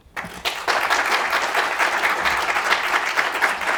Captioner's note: applause